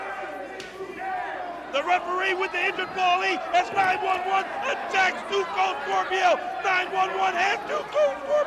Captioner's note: crowd cheering